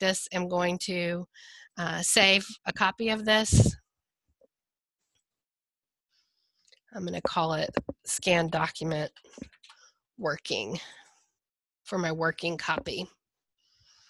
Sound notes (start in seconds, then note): 9.3 fast typing